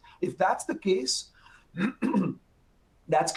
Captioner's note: clearing throat